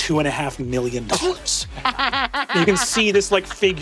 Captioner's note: Ally and Emily laughing